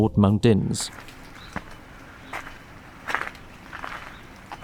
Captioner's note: footstep audio